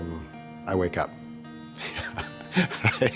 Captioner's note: laughs